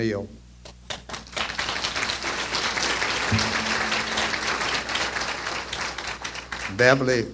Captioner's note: applause